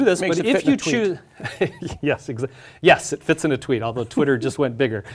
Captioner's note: laugh